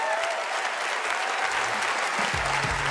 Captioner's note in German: Jubel, Applaus